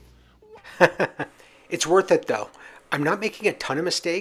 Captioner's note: laughs